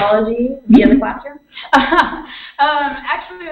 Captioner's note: laughter